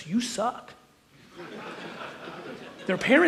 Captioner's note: audience laughs